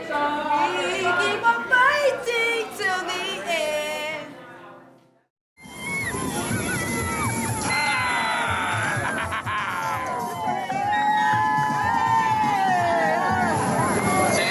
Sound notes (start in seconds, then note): 7.9 cheers and applause